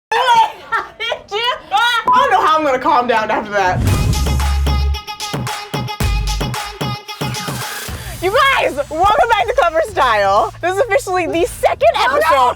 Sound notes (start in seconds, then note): 0.0 laughing; 4.3 upbeat music